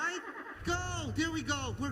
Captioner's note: engine starting